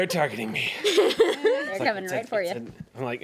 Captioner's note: woman laughs